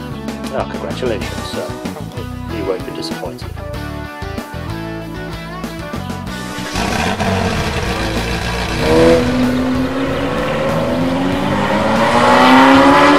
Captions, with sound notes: Congratulations, sir. You won't be disappointed. [Engine noise]